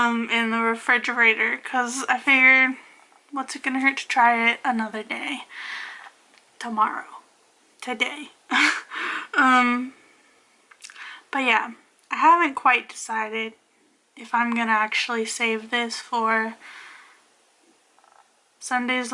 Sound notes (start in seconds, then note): 10.2 laughs